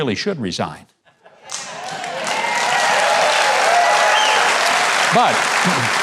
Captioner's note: audience cheers and claps